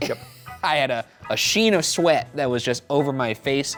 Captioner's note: laughs